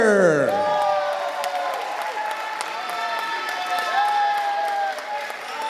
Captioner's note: audience applauding and cheering